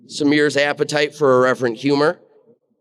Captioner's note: none